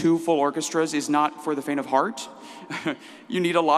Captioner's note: laughs